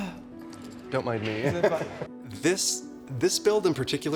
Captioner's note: chuckles